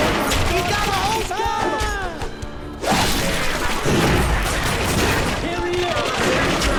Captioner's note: gunfire; screaming